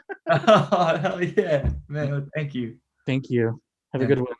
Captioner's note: laughs